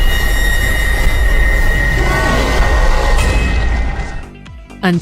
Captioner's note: ominous music; anguished, scary moaning